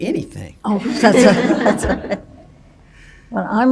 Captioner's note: everybody chuckles